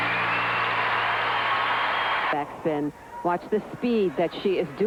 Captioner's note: applause